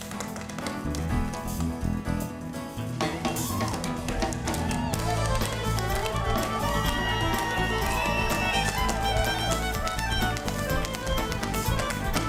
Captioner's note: cheers and applause